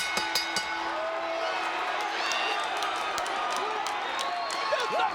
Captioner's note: bell rings; audience cheers